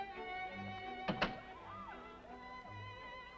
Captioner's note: ballroom music plays; door closes; ballroom music faintly heard